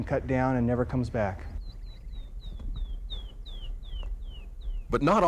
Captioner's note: bird chirping